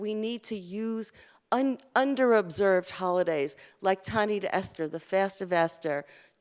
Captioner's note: Hebrew